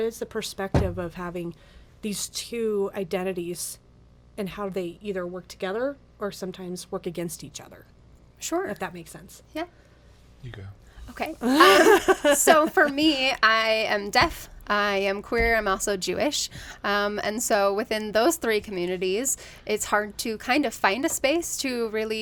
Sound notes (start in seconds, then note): 11.4 laughs